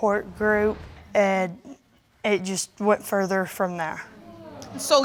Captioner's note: audience exclaiming